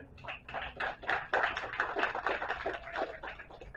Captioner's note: applause